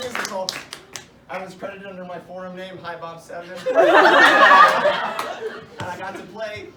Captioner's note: laughter